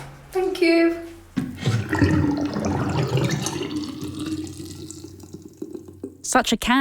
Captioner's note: sound of water draining down a plughole